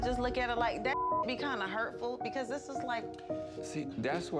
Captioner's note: beep